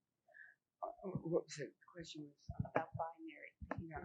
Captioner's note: murmuring